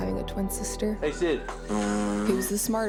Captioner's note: blows